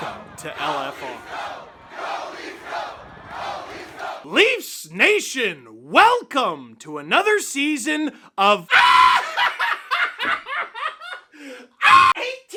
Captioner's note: derranged screaming and laughter